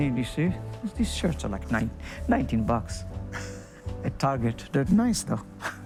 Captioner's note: laughs